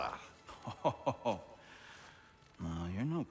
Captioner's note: laughing